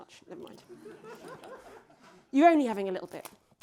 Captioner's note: audience laughs